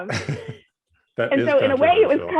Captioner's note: laughs